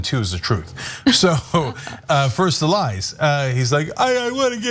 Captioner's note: laugh